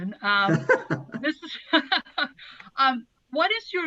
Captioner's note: laughther